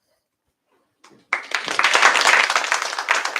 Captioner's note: applause